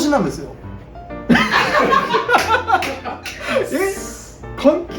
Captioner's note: laughs